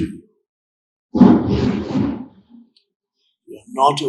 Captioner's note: objects banging